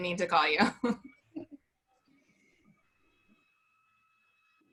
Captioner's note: laughs